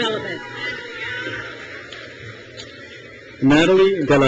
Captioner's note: crowd cheers